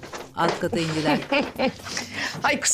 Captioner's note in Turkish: Gülme sesi